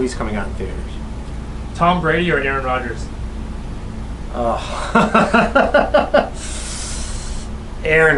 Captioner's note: laughing